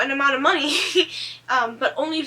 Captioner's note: laughs